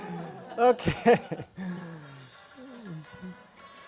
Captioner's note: laughs